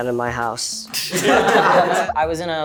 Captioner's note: group laughing